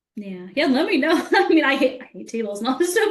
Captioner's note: laughing